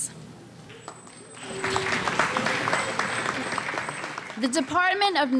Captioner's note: applause